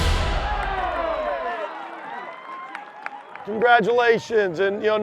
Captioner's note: triumphant music; cheering